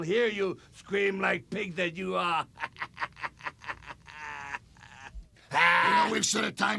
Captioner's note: laugh